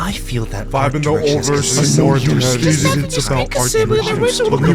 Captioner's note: all chattering